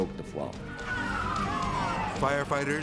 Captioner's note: sirens blaring